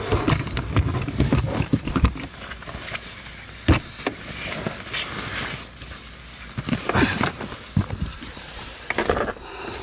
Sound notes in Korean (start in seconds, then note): 1.7 짐을 트렁크에 싣는 소리